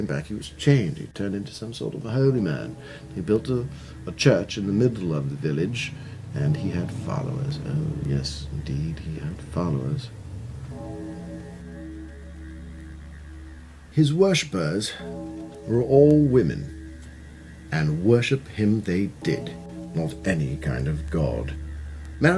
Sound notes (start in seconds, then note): 10.6 church bells ringing